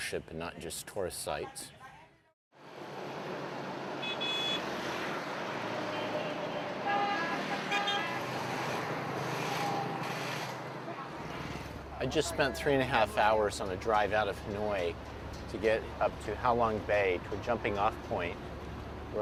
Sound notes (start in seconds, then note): 4.0 horns honking